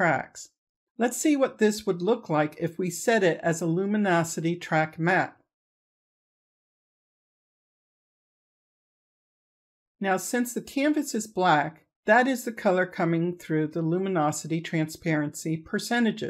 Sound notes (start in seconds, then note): 6.3 silence